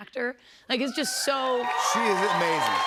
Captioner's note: cheers and applause